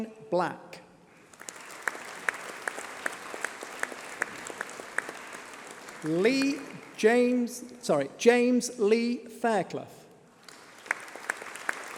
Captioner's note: applause